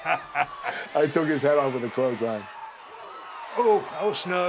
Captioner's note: laugh